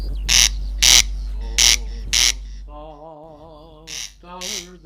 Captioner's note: corn crake craking sound